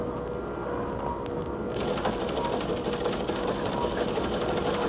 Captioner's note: teletype clicking